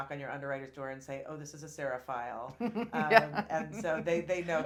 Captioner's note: laughing